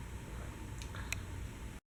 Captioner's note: satisfied sigh